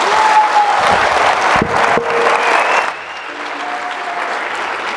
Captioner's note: audience applauding